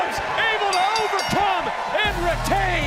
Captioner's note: bell rings